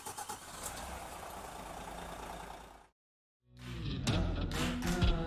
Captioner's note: coach engine purring